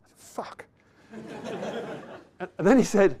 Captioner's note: laughter